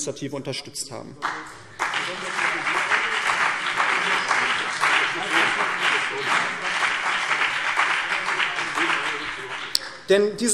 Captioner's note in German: Beifall BÜNDNIS 90/DIE GRÜNEN und CDU